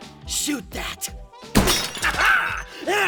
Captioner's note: shatter!